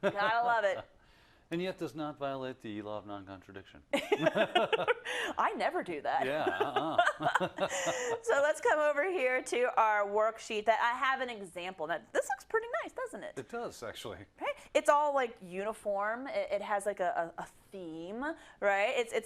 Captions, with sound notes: Gotta love it. -[LAUGH] And yet does not violate the law of non-contradiction. -[LAUGH] I never do that. [LAUGH] So let's come over here to our worksheet that I have an example. This looks pretty nice, doesn't it? -It does, actually. -Right? It's all, like, uniform, it has a theme, right.